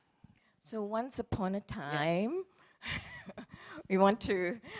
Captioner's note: laughs